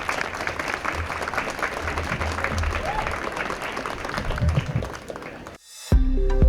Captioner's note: applause